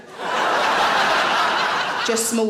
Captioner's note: audience laughing